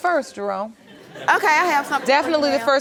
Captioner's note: crowd laughing